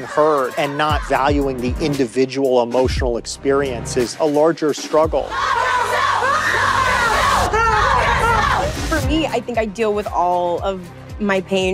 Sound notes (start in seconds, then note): 5.2 chanting; 7.1 kat screams, pants